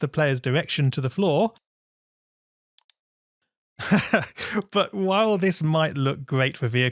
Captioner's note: laughs